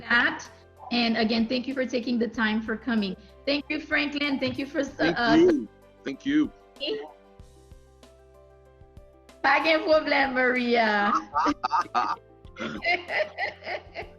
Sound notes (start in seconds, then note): 8.7 speaking Haitian Creole